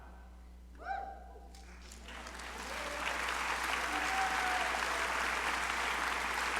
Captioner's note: crowd cheering and applauding